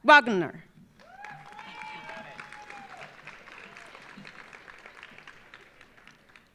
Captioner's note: audience applauding; audience cheering